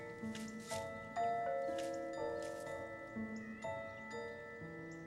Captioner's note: doorbell rings